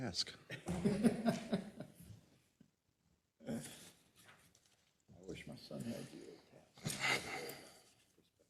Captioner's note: laugh